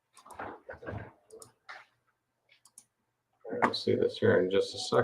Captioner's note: mouse clicks